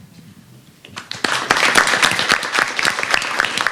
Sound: applause

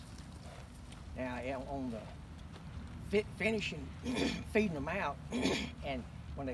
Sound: clears throat

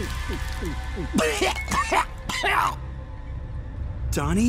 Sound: coughing

